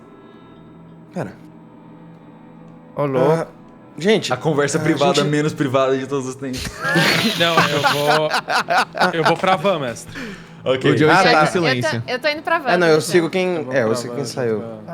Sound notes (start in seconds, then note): 6.5 laughter